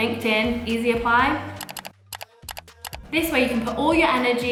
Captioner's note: mouse clicking